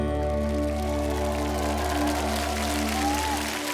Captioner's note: applause